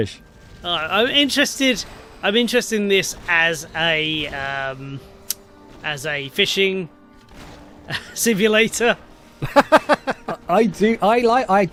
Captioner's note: laughs